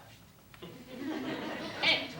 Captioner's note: laughter